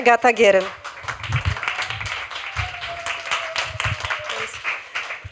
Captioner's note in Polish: Aplauz